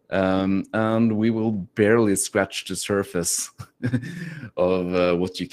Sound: chuckles

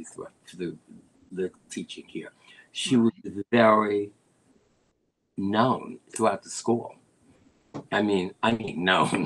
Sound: laughter

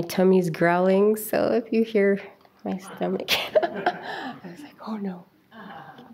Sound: chuckles

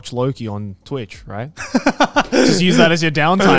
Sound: laughs

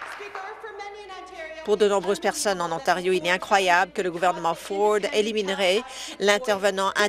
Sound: applause

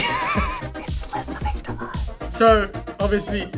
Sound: laughs; whispers

